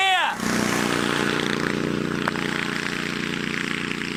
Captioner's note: engine noise; engine roars